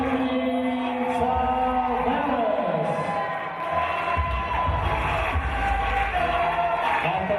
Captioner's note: applause and cheers